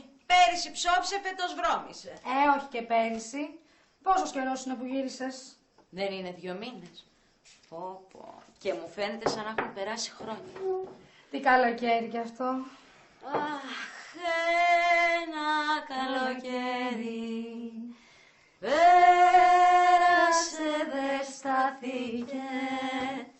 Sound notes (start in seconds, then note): 12.8 stella sighs